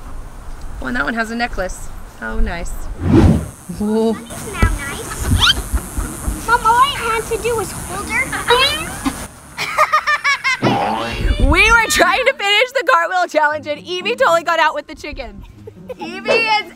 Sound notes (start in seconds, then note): 9.5 laughter; 9.7 children yelling; 15.4 laughter